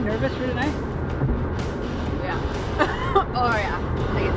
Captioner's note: laughs